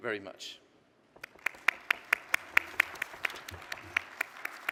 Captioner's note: applause